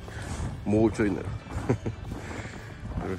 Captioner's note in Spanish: Risas